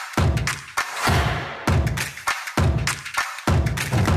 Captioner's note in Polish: Aplauz